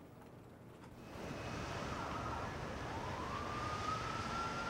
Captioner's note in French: sirène hurlant